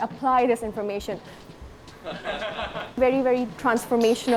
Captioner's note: laugh